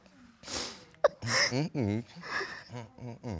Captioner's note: crying